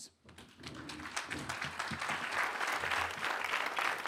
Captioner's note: applause